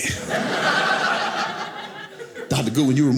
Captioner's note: audience laughing